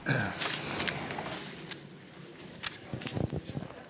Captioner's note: clears throat